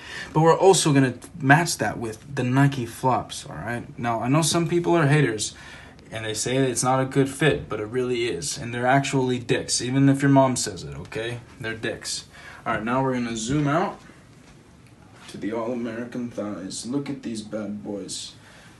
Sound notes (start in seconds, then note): none